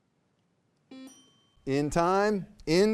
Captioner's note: buzzer buzzing; bell dinging